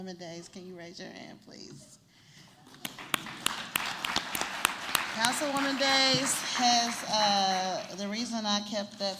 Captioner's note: applause